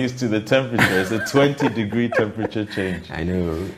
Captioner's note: laughs